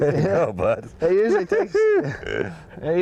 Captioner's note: laughter